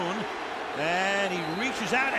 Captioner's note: crowd chanting "kuhn"